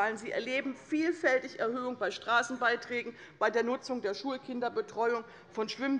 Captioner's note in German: none